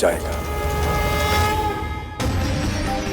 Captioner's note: conch blows